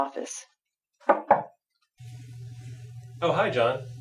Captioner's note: knocks on door